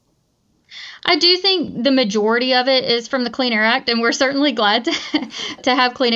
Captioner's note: laughs